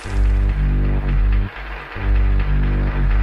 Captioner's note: applause